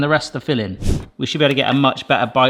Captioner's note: screen whooshes